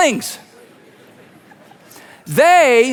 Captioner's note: congregation laughing